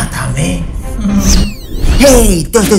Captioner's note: chuckle